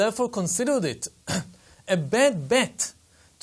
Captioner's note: cough